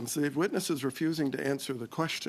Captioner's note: speaking French